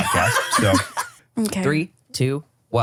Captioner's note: laughs